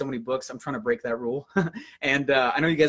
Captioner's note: laughs